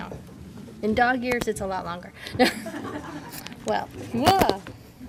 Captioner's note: laughter